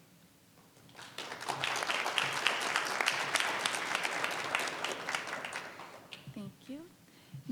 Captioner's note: applause